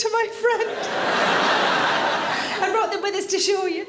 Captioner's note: audience laughing